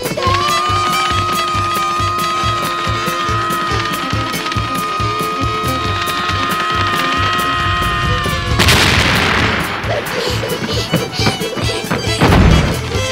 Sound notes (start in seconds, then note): 0.1 screaming; 8.5 crashing; 9.6 breathing heavily